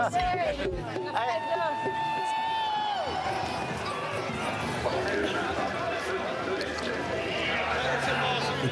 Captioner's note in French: cris et applaudissements